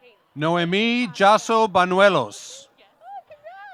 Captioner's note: applause